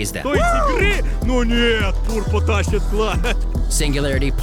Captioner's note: foreign shoutcasters commentate